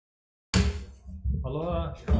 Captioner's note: gavel banging